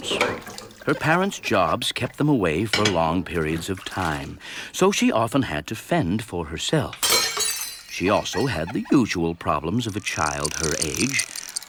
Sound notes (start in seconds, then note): 7.0 dish breaking